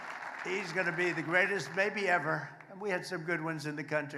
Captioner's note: applause